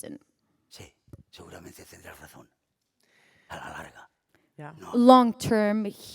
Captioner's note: speaking spanish